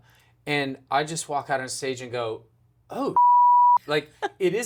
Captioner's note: beep